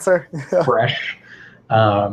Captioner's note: laugh